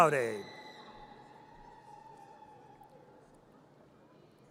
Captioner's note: audience cheers